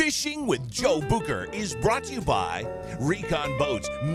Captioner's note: voiceover